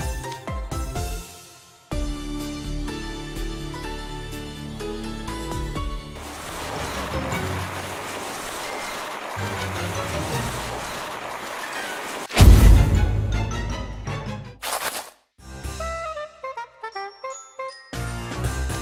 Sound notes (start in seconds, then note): 12.4 boom!!!